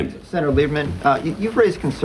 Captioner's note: soundbite of archived recording